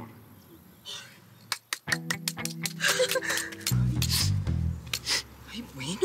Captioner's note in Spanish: Aplausos